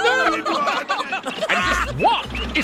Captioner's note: laughing